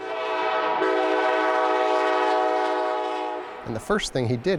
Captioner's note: train horns